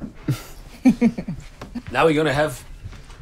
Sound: chuckles

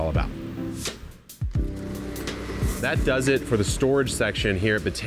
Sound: door motor whirring

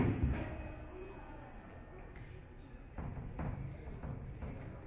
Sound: audience chatter

